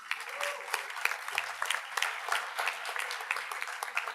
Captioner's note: audience applauds